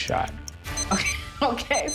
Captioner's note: clock beeping